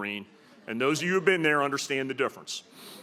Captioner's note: laughter